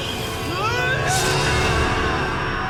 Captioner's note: neville yells